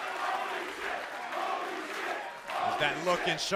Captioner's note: cheers & applause; fans chanting